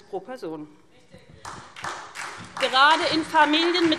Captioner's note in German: Beifall SPD